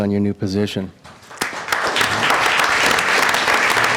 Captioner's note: applause